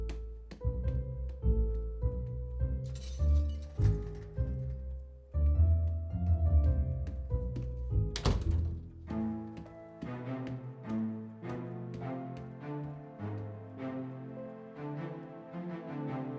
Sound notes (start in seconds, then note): 2.9 tools clattering; 8.1 door clacking